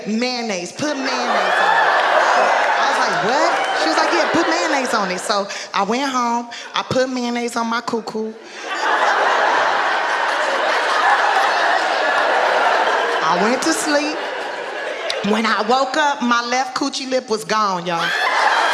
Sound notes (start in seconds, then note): 0.9 audience laughing and groaning; 8.4 audience laughing; 18.0 audience laughing